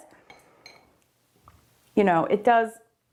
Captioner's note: brush tinkles against glass